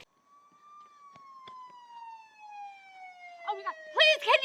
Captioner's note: siren wailing